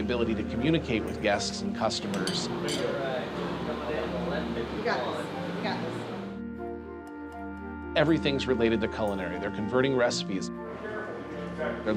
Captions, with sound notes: but also to have the ability to communicate with guests and customers. [chatter] Everything's related to culinary. They're converting recipes.